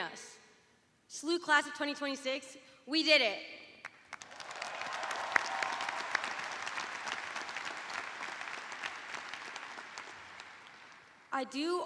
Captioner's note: cheers and applause